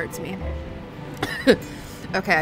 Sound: coughs

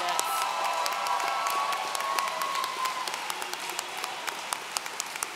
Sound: audience cheering

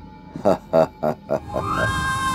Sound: laughs

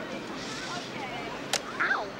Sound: band snaps

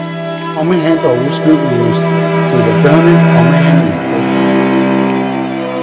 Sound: speaking in language other than English

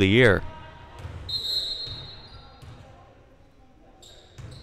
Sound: whistle blowing

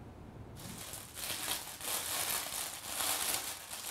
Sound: sack rustling

